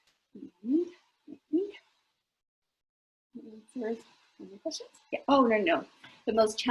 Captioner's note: mumbling to self